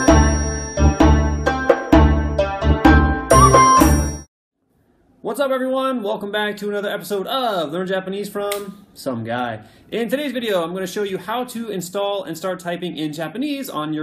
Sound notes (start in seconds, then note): 8.5 snaps